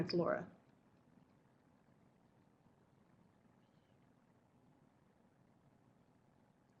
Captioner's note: no sound - waiting for more questions/comments